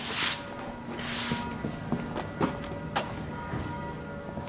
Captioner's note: footsteps